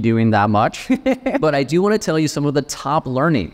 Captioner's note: laughing